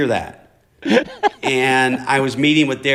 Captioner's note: laughter